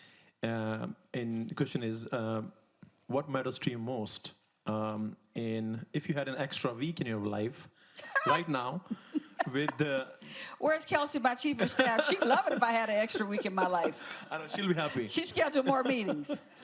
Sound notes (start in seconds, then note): 8.9 laughing; 16.4 audience laughs